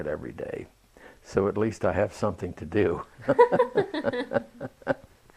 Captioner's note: laughter